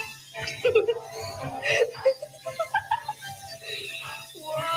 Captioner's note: students giggling